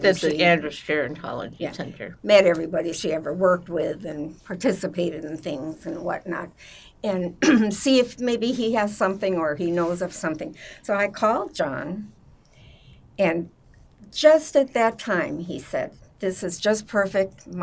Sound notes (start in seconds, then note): 7.1 clears throat